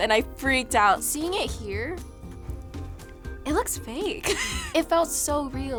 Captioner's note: laughs